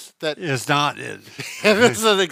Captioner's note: both laugh